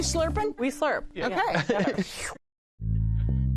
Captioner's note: laughs